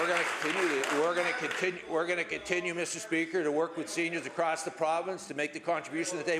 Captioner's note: applause